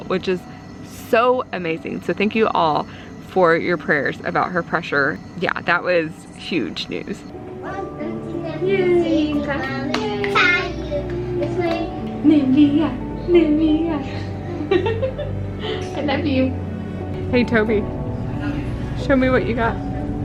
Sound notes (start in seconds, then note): 9.6 clapping; 12.1 laughing